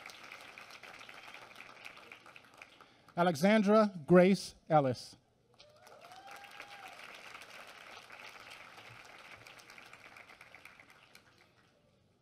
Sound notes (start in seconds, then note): 5.6 applause